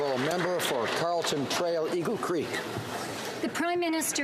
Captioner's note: applause